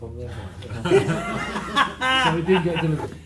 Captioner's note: general laugher